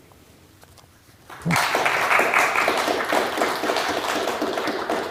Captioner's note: applause